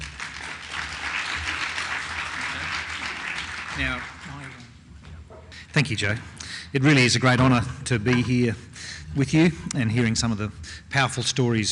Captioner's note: clapping